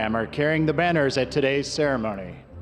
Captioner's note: none